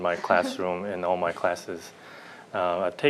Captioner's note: laughter